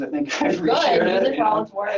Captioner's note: laughing